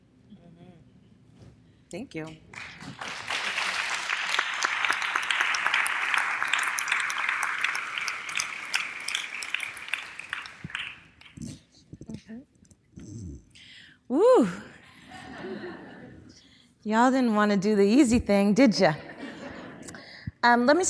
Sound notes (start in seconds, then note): 2.5 audience applause